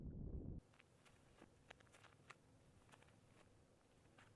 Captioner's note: footsteps pattering